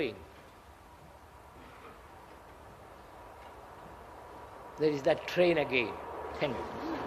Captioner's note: noise of train